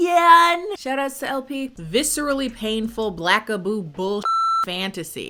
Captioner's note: beep